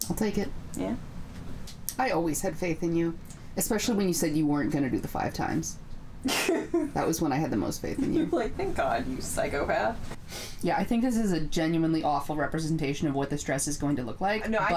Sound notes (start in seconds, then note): 6.2 laughing